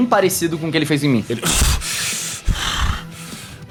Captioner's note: gasping